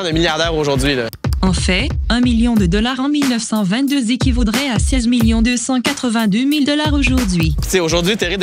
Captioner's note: female voice